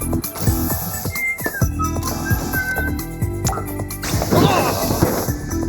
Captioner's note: whistling